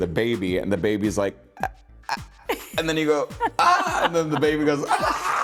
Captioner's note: gagging